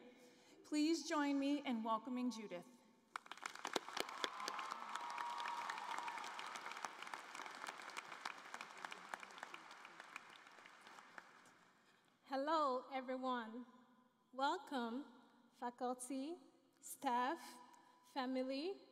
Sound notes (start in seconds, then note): 5.2 cheering and Applause